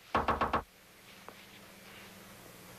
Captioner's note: knock on door